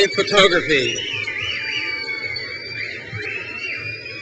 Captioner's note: crowd cheers